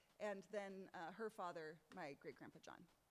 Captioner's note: none